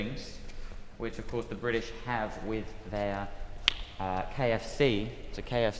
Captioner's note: clap